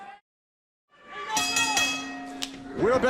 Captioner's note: bell ringing